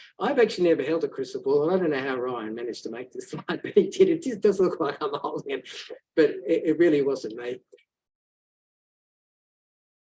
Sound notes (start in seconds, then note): 5.9 laughs